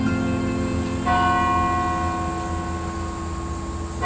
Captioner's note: bell rings